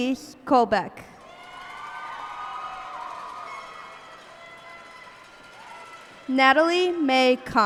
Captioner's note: cheers and applause